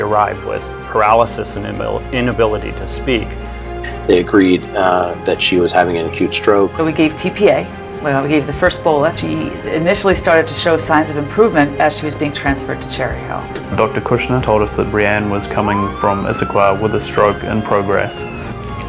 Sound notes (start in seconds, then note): 13.8 voiceover